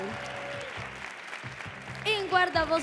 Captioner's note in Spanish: Aplausos